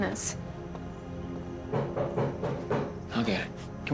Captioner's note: knocking